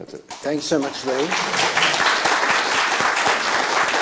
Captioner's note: applause